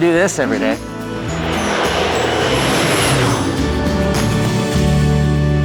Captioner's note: airplane whooshing